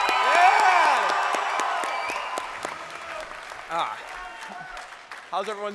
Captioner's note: crowd cheering